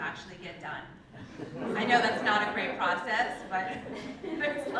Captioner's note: laugh